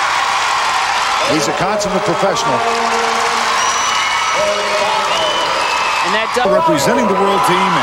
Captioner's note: crowd Cheering